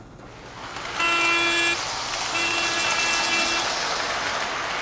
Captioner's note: horn blowing